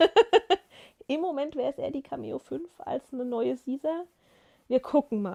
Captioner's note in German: gelächter